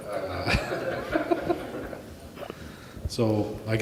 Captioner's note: all laughing